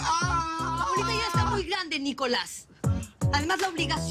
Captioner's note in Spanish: Grito